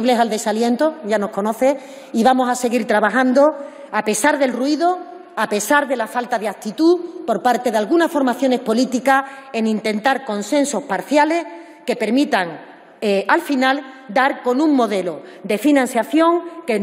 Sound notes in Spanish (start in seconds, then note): none